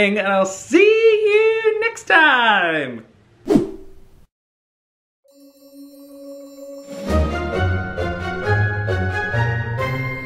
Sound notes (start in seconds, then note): 3.4 scene whooshing; 5.3 mesmerising music